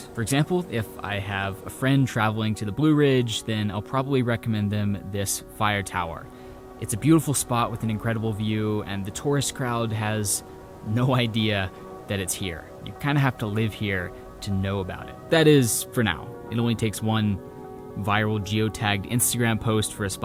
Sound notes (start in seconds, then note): none